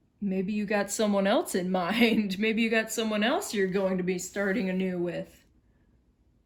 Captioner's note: chuckles